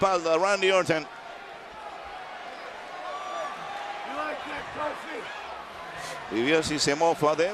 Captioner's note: applause